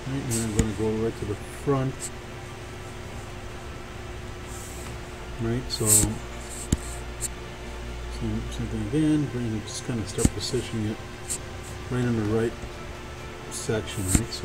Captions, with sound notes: Right, then I'm gonna go right to the front. Right, so bring it in, bring it, just kinda (speaking faintly), Random and right. Section, right?